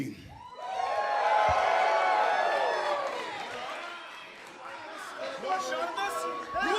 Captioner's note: crowd cheering